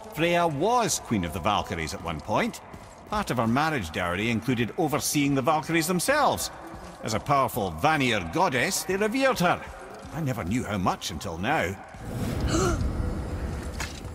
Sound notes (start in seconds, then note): 12.3 gasps